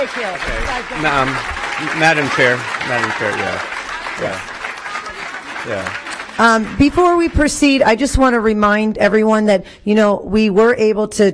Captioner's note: applause